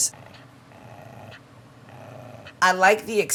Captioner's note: dog growling